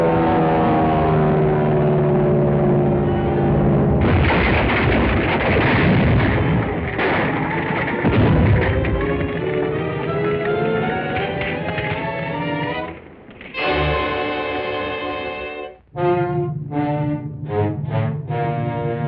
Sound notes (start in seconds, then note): 3.9 explosion; 4.1 wood shatters; 8.6 dramatic music; 15.2 ominous music